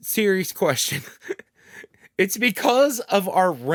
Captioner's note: laughs